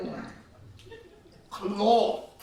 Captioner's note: laughs